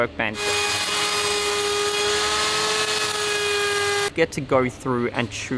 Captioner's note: equipment growling